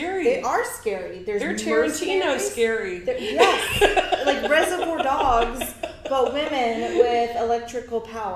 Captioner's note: laughs